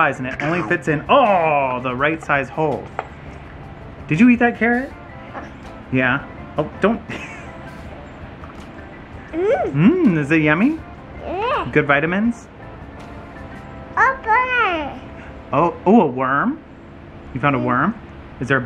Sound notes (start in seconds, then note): 9.3 laughs; 14.0 speaking gibberish